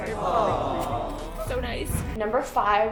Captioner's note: awww sound effect